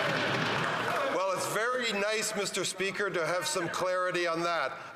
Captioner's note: some Applause